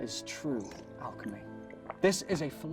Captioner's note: drinking noises